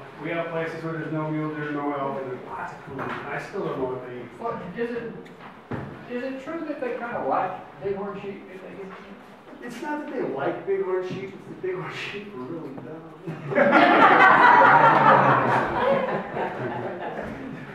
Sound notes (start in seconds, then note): 8.5 speaks faintly; 13.3 audience laughs